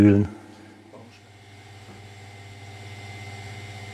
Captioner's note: quiet machine noise